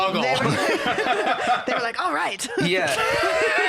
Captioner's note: laughs